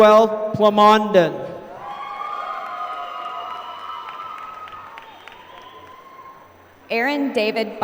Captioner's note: applause